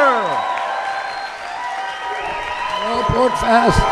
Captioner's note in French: cheering